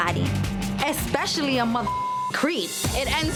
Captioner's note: beep